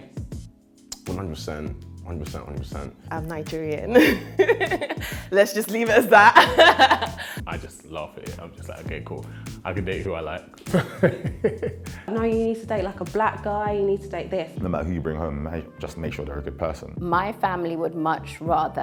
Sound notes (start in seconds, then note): 3.9 laughs; 10.7 laughs